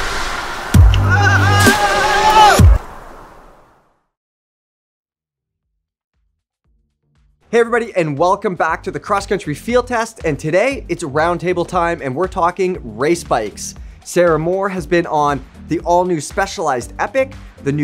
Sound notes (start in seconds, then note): 1.2 cyclist yelling